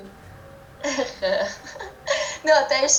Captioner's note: laughs